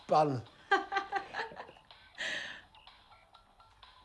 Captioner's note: laughing